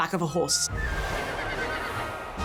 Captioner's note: horse neighs